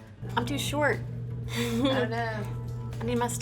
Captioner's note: chuckles